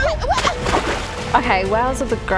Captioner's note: splash